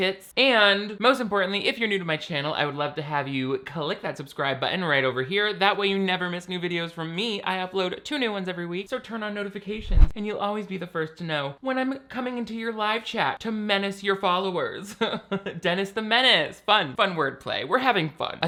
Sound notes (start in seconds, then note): 15.0 laughs